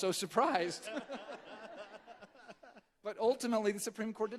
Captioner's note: all chuckling